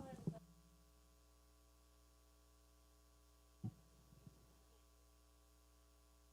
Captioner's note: speaking away from mic